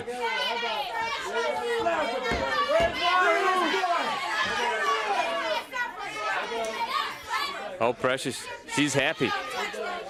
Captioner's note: crowd chatter